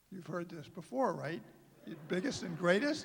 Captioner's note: laughter